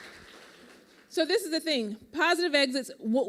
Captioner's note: applause